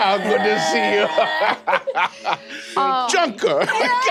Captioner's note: laughing